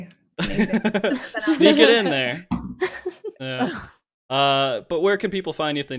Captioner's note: laughs